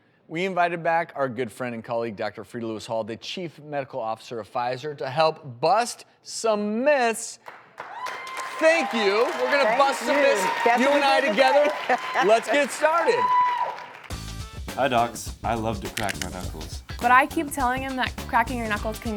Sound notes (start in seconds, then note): 7.4 audience applauds and cheers; 11.2 laughs